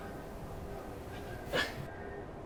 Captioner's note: chuckles